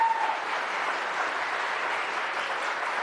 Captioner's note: applause